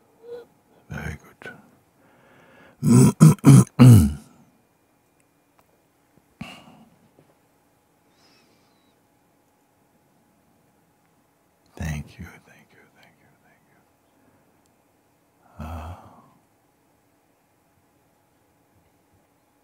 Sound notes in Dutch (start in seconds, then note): 14.7 stilte